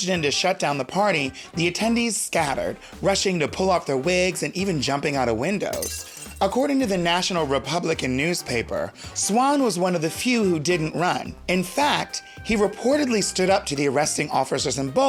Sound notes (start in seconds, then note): 5.7 glass shatters